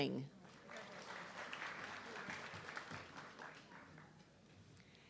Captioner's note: audience clapping